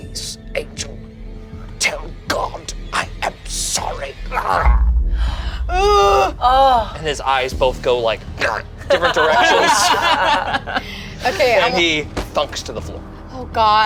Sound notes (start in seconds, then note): 8.7 group laughs